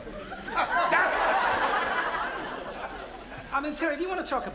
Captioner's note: audience laughs